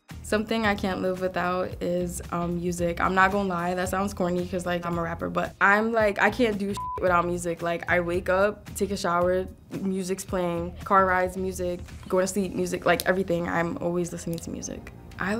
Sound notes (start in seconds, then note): 6.7 beep